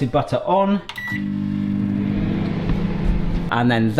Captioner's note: microwave beeping; microwave whirring